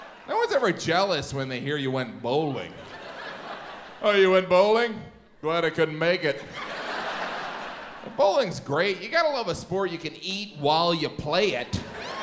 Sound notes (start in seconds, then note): 0.0 audience chuckles; 2.6 audience laughs; 6.3 audience laughs; 11.6 audience laughs